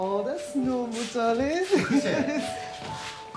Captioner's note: Evelyn chuckling